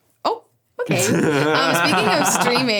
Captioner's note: laughs